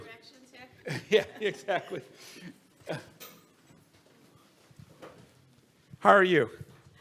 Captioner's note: audience laughs